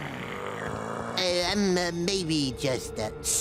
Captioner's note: group growling